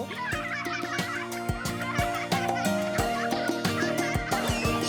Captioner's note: children laughing